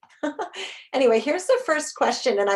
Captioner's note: chuckles